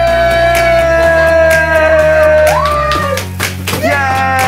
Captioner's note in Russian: крики